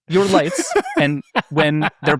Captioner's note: laughing